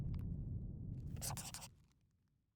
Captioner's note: scribbling